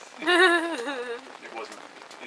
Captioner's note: laughs